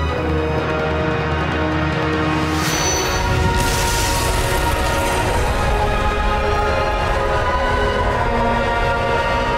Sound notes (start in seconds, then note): 0.6 music swells; 2.6 ringing intensifies; 2.6 thrum